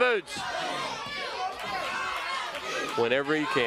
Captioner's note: crowd cheering